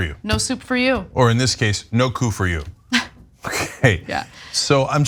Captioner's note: laugh